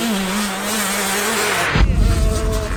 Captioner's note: whoosh sfx